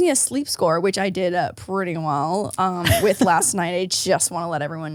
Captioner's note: laughs